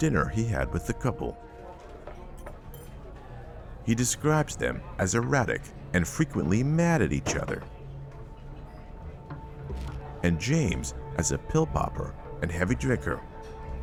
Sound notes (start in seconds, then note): 1.8 patrons faintly speaking